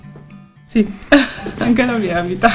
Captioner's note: giggles